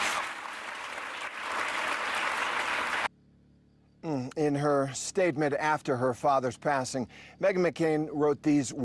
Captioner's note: applause